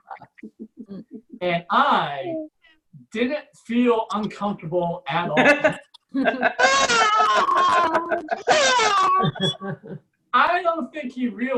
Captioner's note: audience Laughs